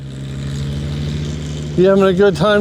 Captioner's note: engines rumbling